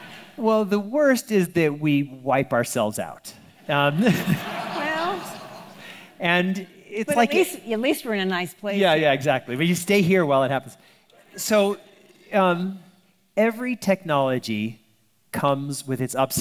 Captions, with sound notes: - Well, the worst is that we wipe ourselves out. (audience laughing) - Well. - And it's like- - But at least we're in a nice place. - Yeah, exactly. But you stay here while it happens. So every technology comes with its upside and its downside.